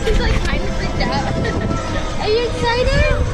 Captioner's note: chuckles